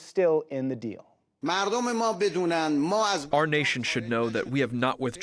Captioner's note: through translator